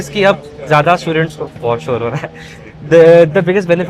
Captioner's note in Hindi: हंसी